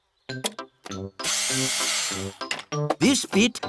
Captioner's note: whirring